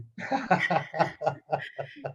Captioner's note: laughter